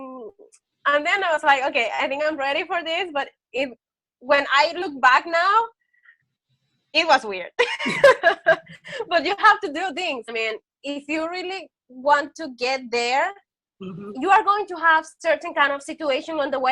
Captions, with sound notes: And then I was like, okay, I think I'm ready for this. But when I look back now, it was weird. (laughs) But you have to do things. I mean, if you really want to get there, you are going to have certain kind of situation